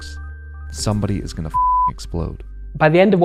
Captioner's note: beep